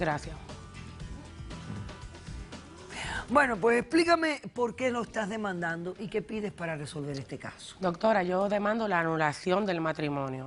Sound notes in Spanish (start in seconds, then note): none